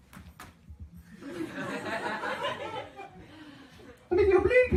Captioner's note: laughter